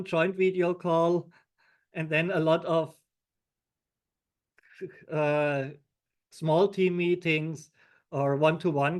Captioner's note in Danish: chuckles